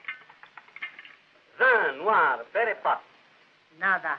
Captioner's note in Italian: lingua francese; lingua spagnola